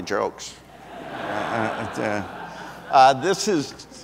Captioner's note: audience laughs